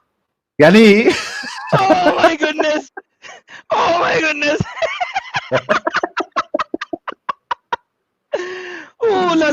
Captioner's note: laughter